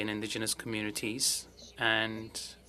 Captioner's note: speaking french